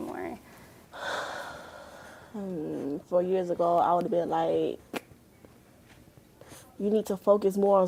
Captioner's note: sighs